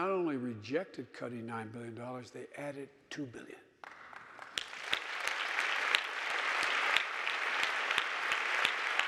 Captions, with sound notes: and not only rejected cutting nine billion dollars, they added two billion. (audience applauding)